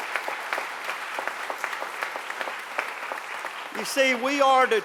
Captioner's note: applause